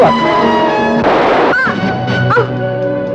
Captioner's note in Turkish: Silah sesi ve inleme